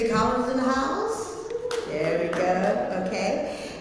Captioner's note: applause